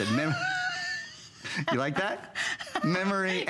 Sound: laughter

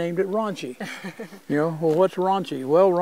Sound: giggles

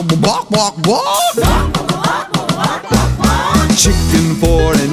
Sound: kids repeat

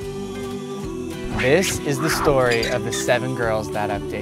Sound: voiceover

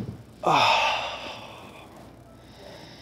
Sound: sighs

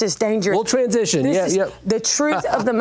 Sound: laughs

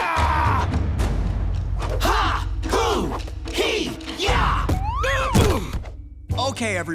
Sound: grunting

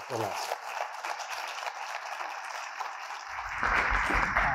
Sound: applause

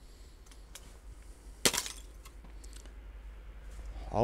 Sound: sound of ice hitting ground

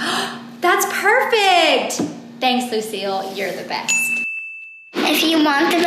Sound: gasp

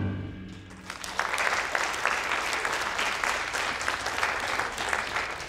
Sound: audience applauding

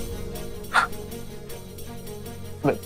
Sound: Dhruv scoffs

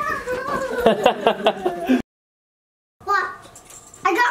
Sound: laughing

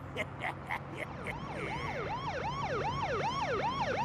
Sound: laughs maliciously; police siren wailing

